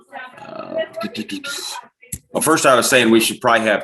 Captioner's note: background chatter